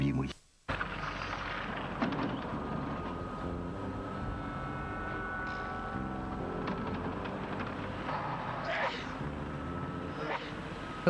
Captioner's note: sneeze